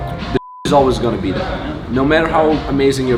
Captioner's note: beep